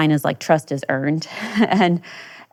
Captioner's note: chuckles